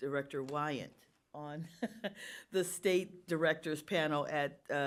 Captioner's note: laughs